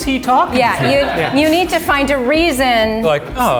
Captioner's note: laughing